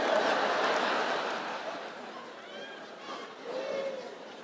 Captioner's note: audience laughs